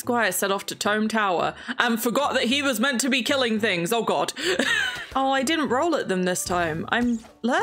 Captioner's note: laughs